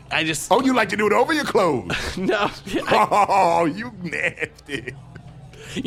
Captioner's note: chortles